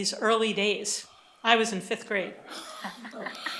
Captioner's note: laughter